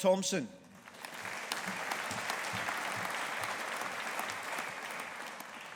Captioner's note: audience applauding